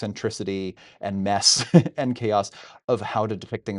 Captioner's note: laughing